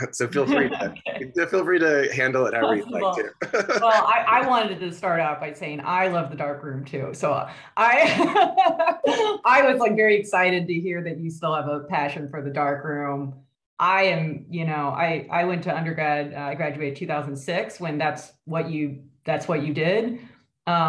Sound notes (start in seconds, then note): 0.0 laughs; 2.3 laughing; 8.7 laughs